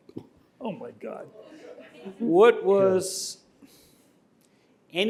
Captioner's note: laughter